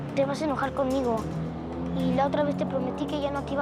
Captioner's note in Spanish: none